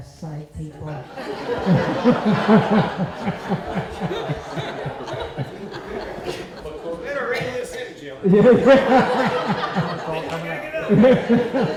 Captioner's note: laughter